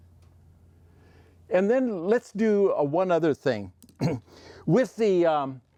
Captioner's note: coughs